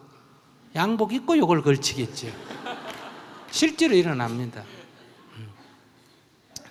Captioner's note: audience Laughter